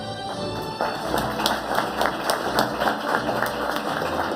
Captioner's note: audience applauding